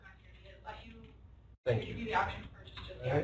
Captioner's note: student talking